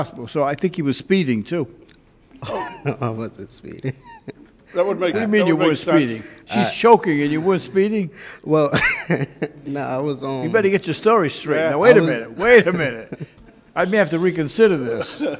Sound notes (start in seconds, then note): 2.3 laughs; 3.8 chuckles; 8.5 laughs